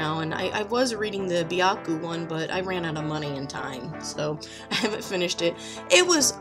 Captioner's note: laughs